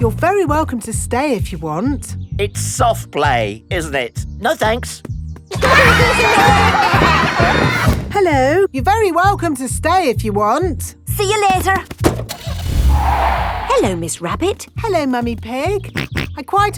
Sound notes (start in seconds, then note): 5.6 laughter; 12.0 car starting; 12.2 tires screeching; 16.1 snorts